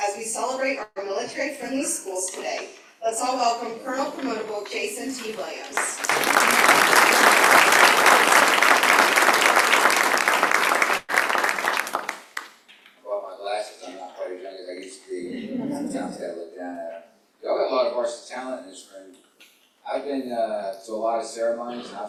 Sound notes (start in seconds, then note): 4.6 applause